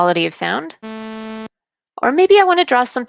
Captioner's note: sharp beep